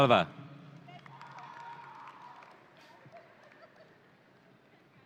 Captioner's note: audience cheering